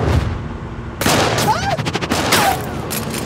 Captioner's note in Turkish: Silah sesi